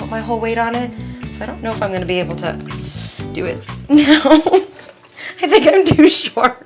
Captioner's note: laughs